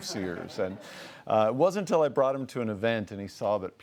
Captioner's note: laughs